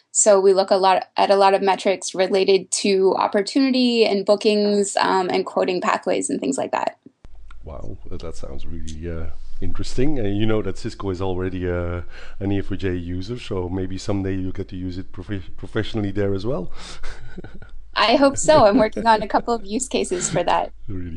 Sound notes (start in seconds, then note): 17.4 laughs